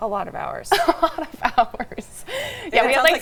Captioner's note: laughs